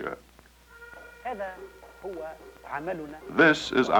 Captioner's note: speaking Arabic